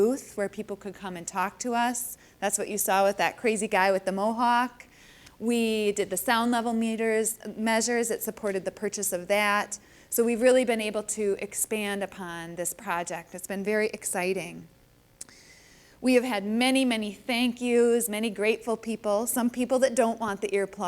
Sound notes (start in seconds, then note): none